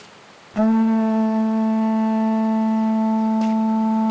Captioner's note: horn blares